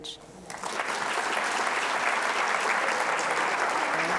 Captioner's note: audience applauds